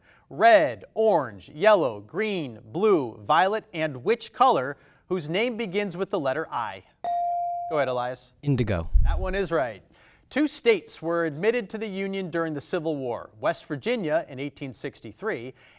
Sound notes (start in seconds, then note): 7.0 bell dings